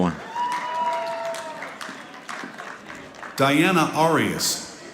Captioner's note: audience applauding